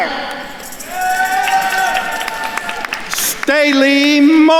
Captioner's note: attendees cheering and applauding